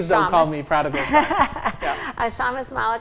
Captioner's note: laughing